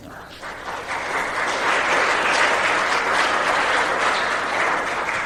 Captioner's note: applause